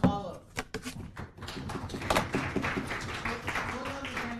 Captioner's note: applause